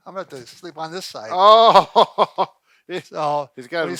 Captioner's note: laughing